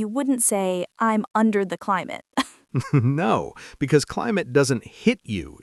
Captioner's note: laughs